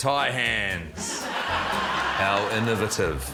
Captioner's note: laughter